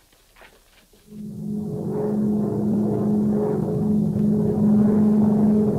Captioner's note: footsteps tapping; plane engine roaring